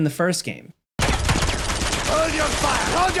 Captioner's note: guns firing